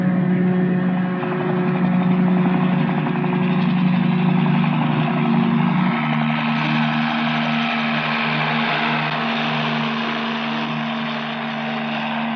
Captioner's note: helicopter rotors